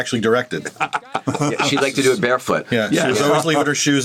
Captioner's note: laughs